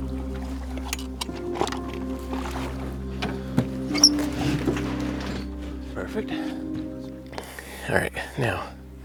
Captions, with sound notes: (boat squeaks and rattles) Perfect. All right, now,